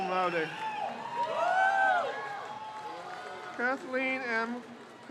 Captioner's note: crowd cheers